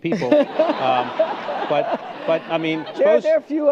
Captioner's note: laughter